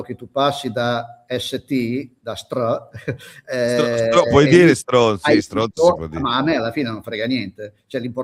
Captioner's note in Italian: risate